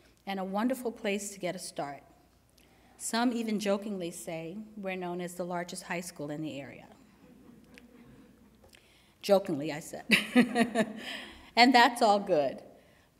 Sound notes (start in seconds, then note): 7.2 chuckling; 10.2 laughs